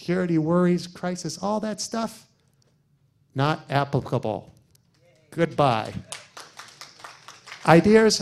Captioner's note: applause